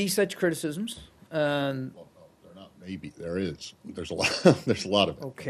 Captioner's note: laughter